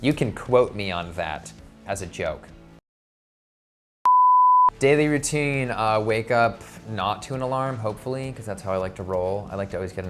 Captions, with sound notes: You can quote me on that, as a joke. (beep) Daily routine, I wake up, not to an alarm, hopefully, 'cause that's how I like to roll.